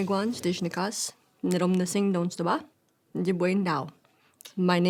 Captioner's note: speaking Ojibwe